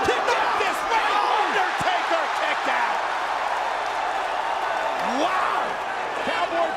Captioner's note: crowd cheering